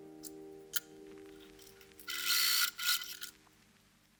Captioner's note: snipping sounds and machine whirs